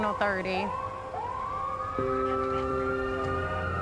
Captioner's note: siren wailing